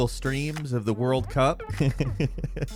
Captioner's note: laughs